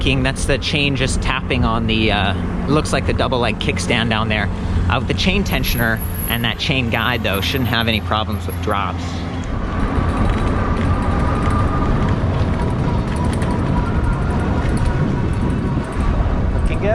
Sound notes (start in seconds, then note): 11.1 wind rushes past; 13.5 electric motor whirs; 15.1 bike chains clank